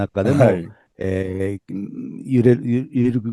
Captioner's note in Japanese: 咳払い